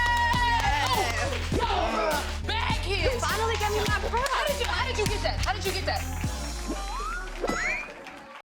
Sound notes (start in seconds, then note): 1.7 hums